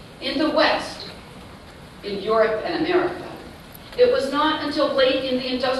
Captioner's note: none